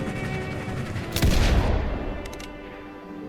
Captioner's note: train engine sputters maniacally as the player struggles to regain control; revolver fired; train engine sputters maniacally as the player struggles to regain control